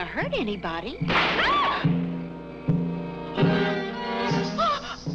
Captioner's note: gun fires; Mrs. Wilson screams; gasps